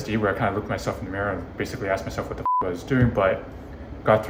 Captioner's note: beep